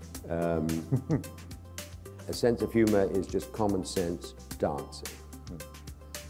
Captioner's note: chuckle